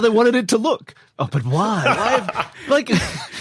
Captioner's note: laughs